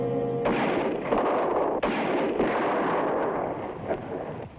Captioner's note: suspenseful music; gunshots blast